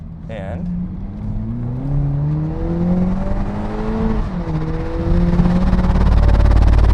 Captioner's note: helicopter wind sounds